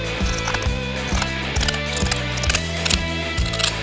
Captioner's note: scissors cutting fabric